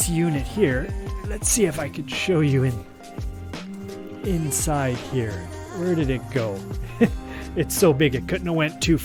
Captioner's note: laughs